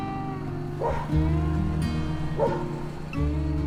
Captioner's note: dog barks